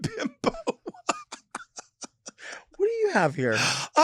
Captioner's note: Lady Bunny laughs